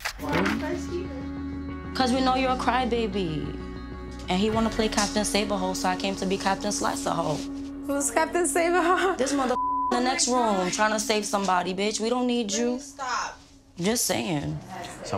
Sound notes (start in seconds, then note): 9.5 beep